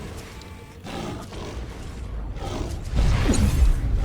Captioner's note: explosion